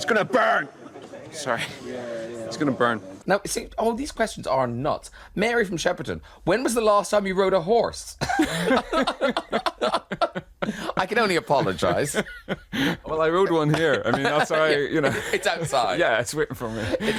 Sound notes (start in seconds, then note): 8.6 they laugh; 12.3 Colin laughs